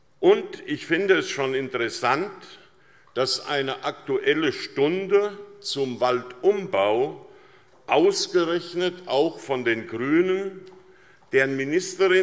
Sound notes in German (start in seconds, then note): none